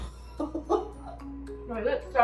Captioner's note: laughs